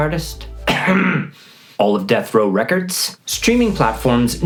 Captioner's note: ahem